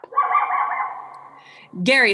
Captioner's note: yelp sound